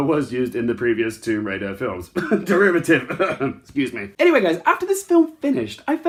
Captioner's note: cough